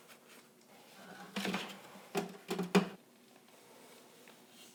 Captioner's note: tapping in bucket